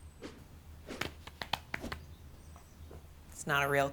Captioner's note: hands patter on pants